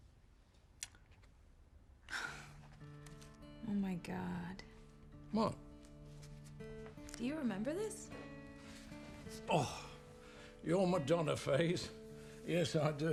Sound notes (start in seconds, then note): 2.1 Kate chuckles; 2.5 gentle music